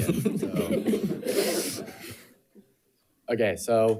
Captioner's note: audience laughing